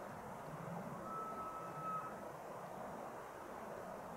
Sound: elk bugling

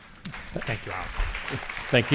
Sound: attendees applauding

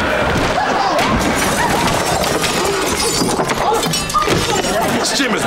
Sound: clanking

